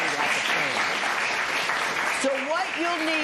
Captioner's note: applause